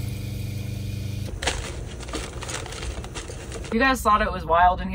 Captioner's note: water running